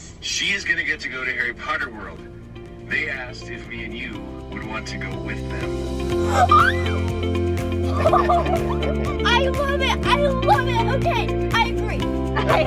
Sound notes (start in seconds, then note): 6.3 excited scream